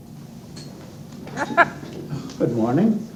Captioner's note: laughs